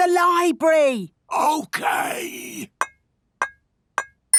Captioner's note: whispering